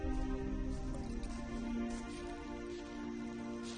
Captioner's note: footsteps